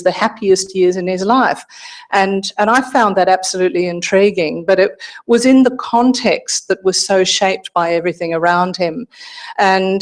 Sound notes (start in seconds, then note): none